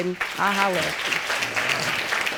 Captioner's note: audience applauding